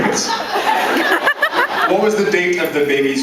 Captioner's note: laughs